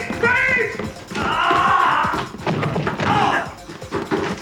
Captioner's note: groans